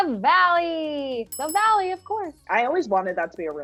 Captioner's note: bells ring